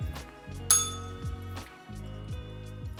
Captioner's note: bell rings